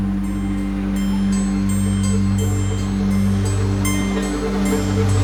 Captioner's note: traffic rumbling